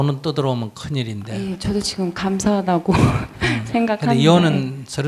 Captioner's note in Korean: 질문자 웃음